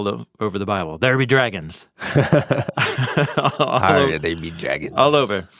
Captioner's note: both laughs